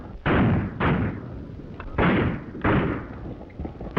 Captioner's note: gunshots banging